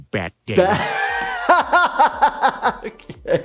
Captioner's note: laughs